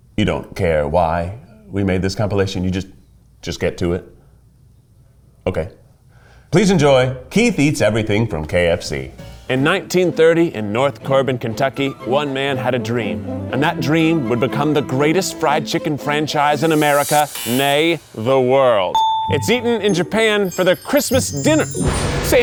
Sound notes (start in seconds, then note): 11.8 upbeat orchestra music; 16.7 buzzer sounds